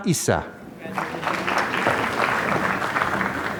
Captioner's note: applause